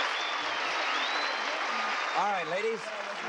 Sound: applauding

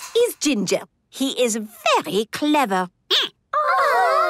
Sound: squeaking

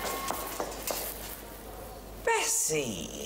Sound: metal clanking

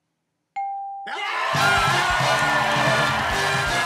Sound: cheers and applause

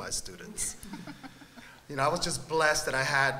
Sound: laughter

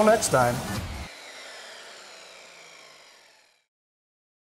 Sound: saw whirring

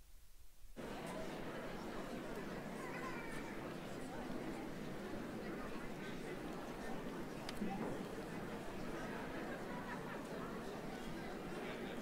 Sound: general chatter

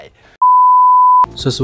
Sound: beep

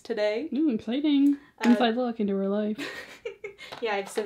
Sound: laughs

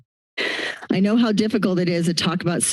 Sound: inhales

